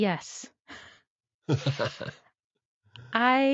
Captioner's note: laughs